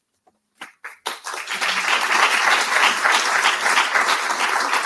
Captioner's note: audience applauding